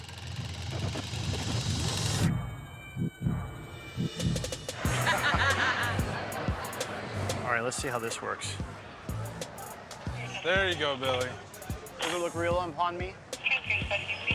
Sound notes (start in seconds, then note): 4.8 laughter